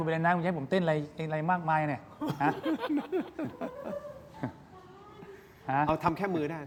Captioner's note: laughs